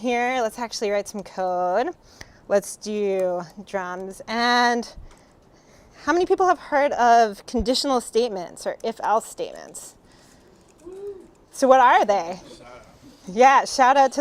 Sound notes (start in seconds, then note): 10.8 audence Member Woos